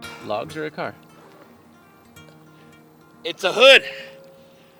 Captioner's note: water splashing